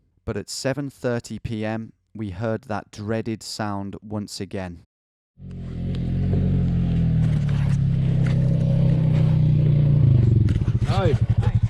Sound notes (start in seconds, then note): 5.4 engine rumbling